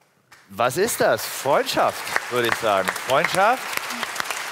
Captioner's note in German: Applaus